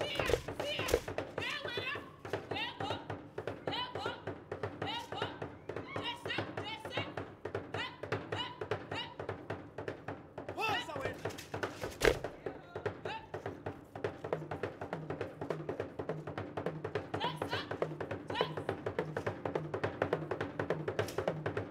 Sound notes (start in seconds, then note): 0.0 woman shouting and drum beating; 9.3 drum beating and beads rattling; 13.6 drum beating; 16.7 woman shouting and drum beating